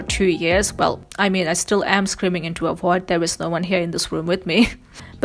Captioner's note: laughs